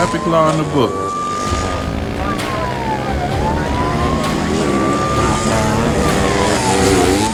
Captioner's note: engine roaring; siren blaring